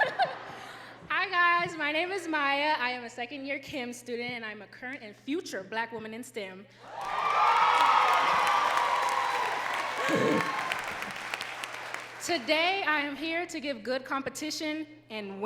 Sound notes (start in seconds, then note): 0.1 laughing; 6.8 crowd cheering and clapping